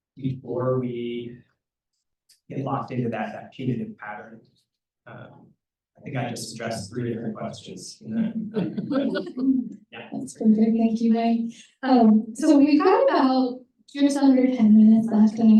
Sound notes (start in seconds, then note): 8.1 laughter